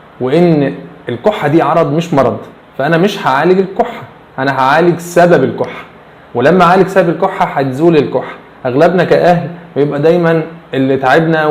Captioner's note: breathes in